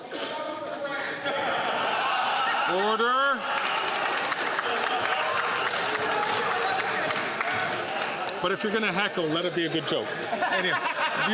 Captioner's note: some Applause